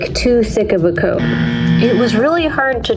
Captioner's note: "wrong" buzzer